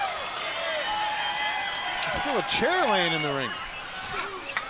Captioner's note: crowd cheering